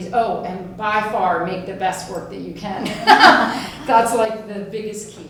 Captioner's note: laughs